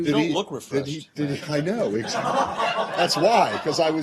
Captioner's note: laughter